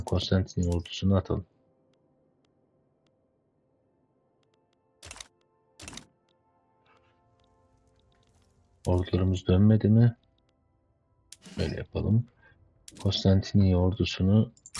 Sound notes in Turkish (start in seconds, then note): 11.5 boğazını temizler